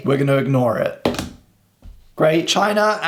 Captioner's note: table banging